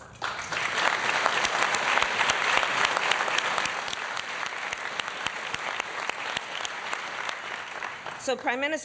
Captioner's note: applause